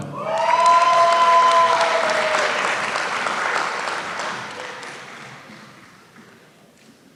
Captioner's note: applause